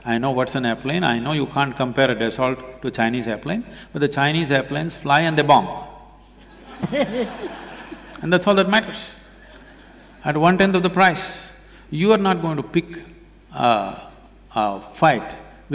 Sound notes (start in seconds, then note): 6.4 laughter